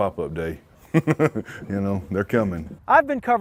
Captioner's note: laughs